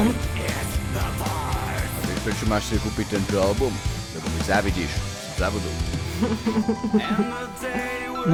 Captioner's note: unidentified cringy rapper noises